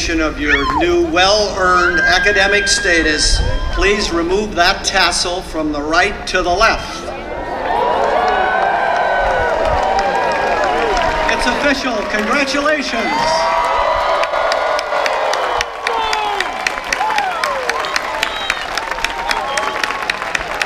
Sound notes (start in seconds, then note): 7.5 cheers; 13.4 applause